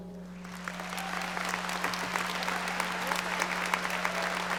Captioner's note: audience applauding